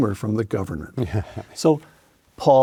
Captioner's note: Paul laughs